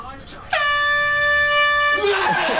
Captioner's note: air horn blaring; man screams then laughs